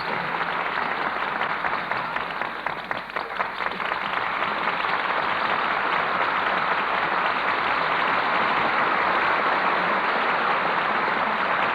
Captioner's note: applause